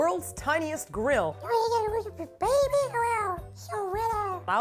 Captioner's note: in baby voice